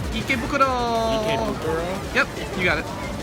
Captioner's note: speaking Japanese